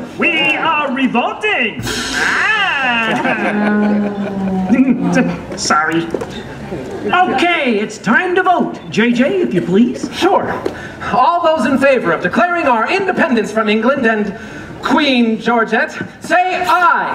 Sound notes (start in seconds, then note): 1.8 drum roll; 2.1 audience laughter; 3.9 sour note